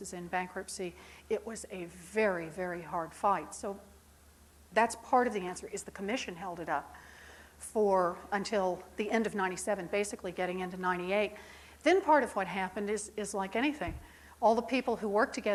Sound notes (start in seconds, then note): none